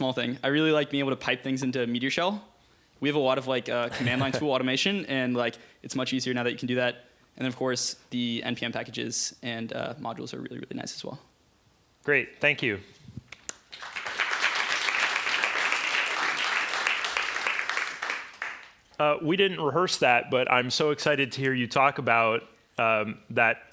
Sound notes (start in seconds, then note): 13.3 applause